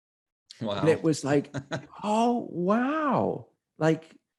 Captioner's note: laughing